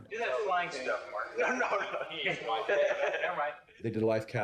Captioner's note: laughing